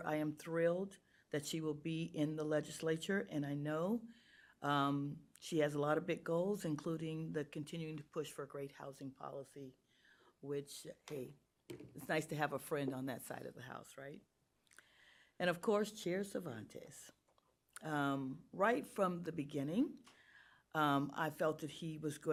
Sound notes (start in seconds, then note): none